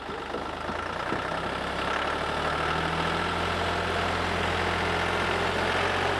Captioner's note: tractor engine running